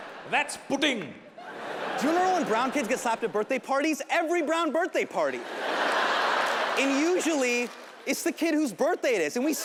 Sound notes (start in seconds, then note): 1.4 audience laughing; 5.2 audience laughing